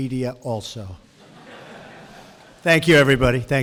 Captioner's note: laughter